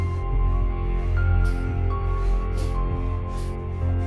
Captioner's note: heavy breathing